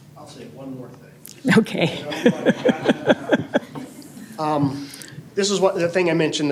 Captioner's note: laughter